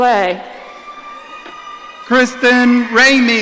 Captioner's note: audience cheering